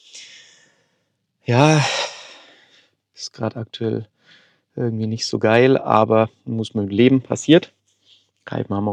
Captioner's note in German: seufzt